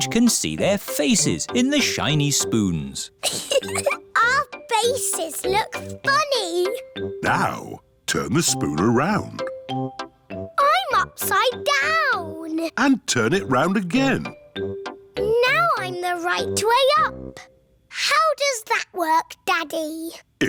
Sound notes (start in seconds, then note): 3.2 giggles